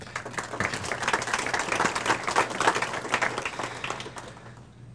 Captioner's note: audience applauds